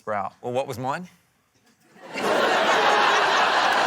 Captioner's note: laughter